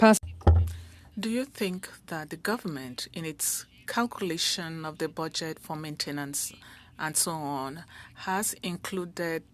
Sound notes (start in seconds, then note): 5.8 speaking French